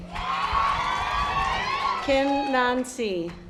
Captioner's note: audience applause